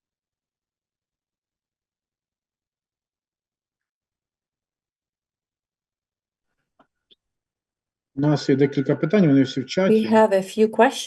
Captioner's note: non-english speech